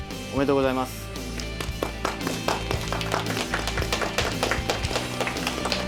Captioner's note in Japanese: 候補生一同拍手